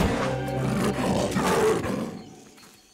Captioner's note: snarling